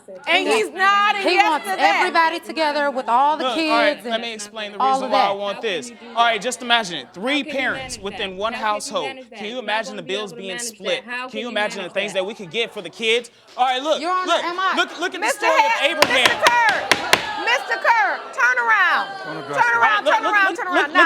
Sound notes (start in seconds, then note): 16.0 banging gavel